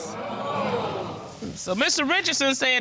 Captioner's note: audience groaning